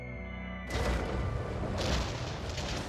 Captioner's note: bombs whistle